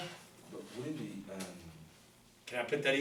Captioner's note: voiceover